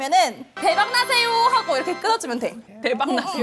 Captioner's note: sound effects like it's gonna hit the jackpot